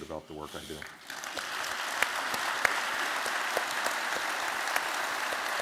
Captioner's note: applause